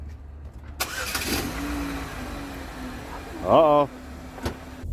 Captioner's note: car engine starting